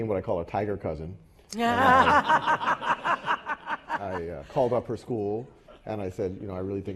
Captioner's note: laugh